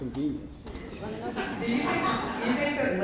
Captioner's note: laughter